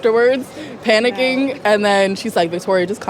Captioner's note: chuckling; laughing